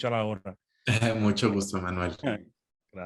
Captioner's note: laughter